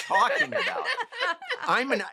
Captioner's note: laughter